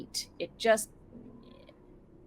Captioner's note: throat creaks